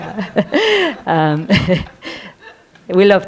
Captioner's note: all laughing